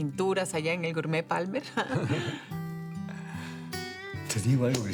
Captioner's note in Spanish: Risas